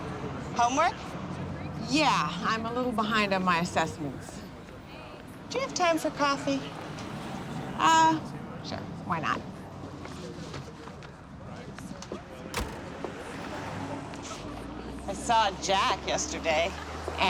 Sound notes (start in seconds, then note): none